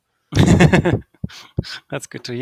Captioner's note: laughing